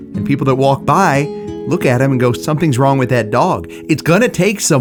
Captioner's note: none